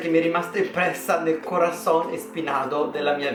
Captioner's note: random spanish